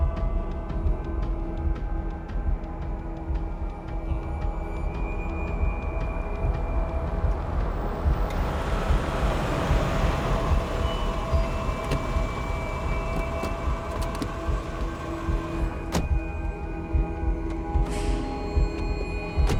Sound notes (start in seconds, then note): 13.1 siren wails in distance